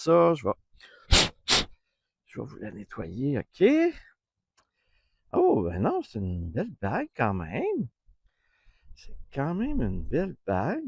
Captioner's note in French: soufflement